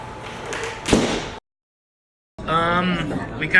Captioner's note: door slams